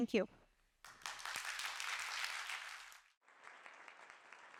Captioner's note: applause